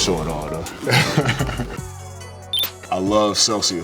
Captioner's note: chuckles